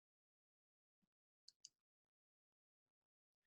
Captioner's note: silence